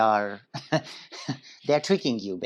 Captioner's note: laughs